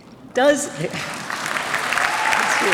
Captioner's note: applause